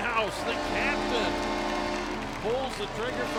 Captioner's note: horn blows